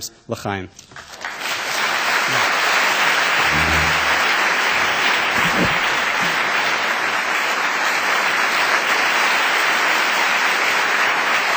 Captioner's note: applause